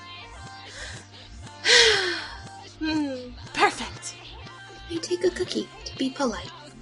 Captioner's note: inhale and sigh